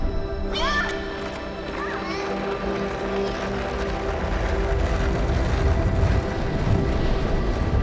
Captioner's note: plastic wheels running on sidewalk; inspirational music